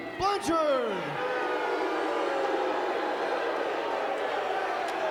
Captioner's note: crowd boos